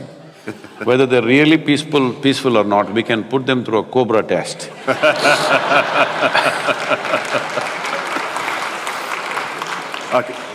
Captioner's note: laughter